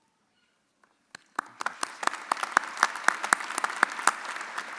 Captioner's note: audience applauding